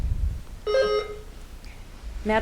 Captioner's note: buzzer ringing